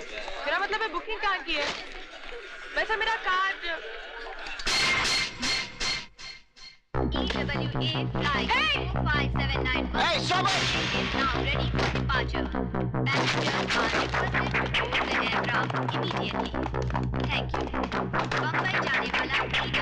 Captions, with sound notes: I mean where have you booked? Actually I've my card.. (Announcement On Mic) Hey stop!